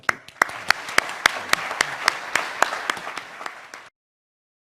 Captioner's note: applause